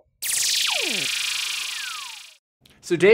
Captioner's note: electronic signals whirring